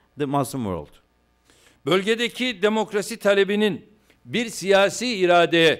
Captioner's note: non-english speech